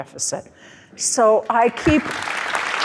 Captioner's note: crowd applauding